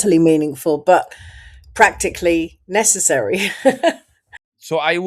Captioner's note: laughs